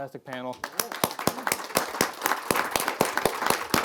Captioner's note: applause